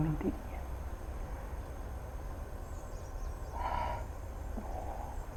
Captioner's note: birds chirping